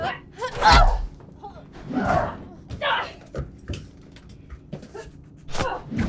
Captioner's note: grunting; smacking